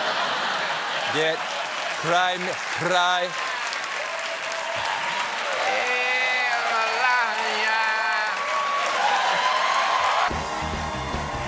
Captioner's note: laughter; cheers and applause